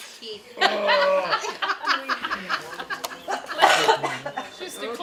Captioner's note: laughter and chatter